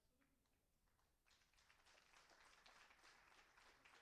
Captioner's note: applauding